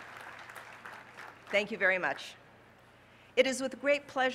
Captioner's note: applause